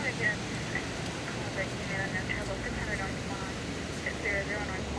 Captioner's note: police radio chattering